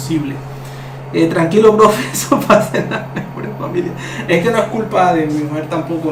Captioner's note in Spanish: risas